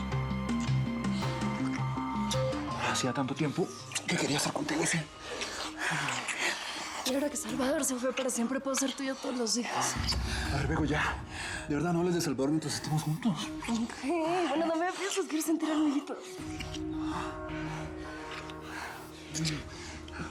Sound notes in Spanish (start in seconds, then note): 15.1 habla entre dientes